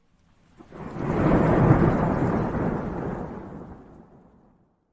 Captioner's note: lightning crashes